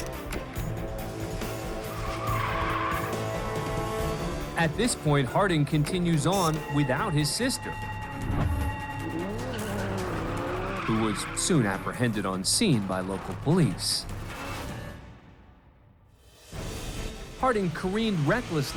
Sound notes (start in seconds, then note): 1.3 tires squealing; 8.3 engine revving